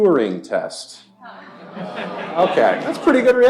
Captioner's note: laughter and groaning